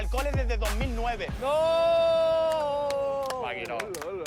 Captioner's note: shouting